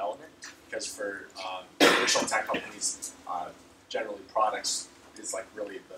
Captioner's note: cough